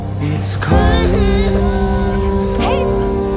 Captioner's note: Hazel crying